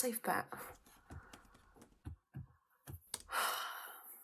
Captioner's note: typing